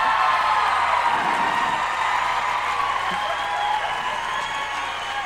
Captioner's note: laughter and applause from the audience